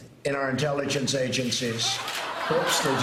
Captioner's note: laughter